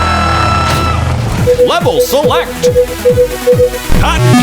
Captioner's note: beeping